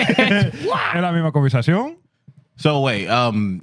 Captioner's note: speaking Spanish